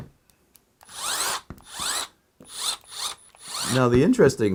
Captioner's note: driver whirring